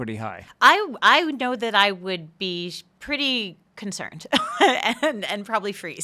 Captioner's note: laughing